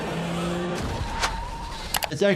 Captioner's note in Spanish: neumáticos chirriando